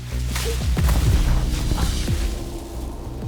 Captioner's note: falling